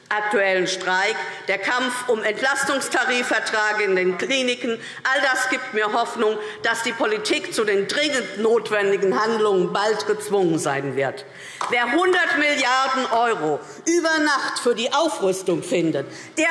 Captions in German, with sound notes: und der Kampf um Entlastungstarifverträge in den Kliniken geben mir Hoffnung, dass die Politik bald zu den dringend notwendigen Handlungen gezwungen sein wird. [Beifall DIE LINKE] Wer über Nacht 100 Milliarden € für die Aufrüstung „findet“,